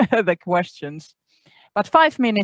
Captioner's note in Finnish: Laughs